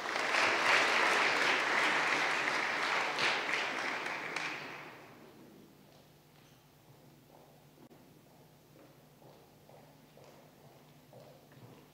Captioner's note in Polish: oklaski